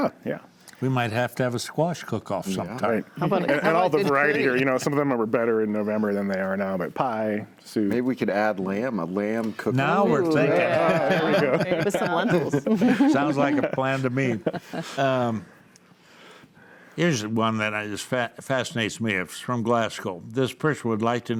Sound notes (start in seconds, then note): 10.4 laughs; 13.1 laughing; 14.6 laughs; 17.0 panels laughs